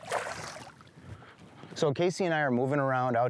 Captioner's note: water splashes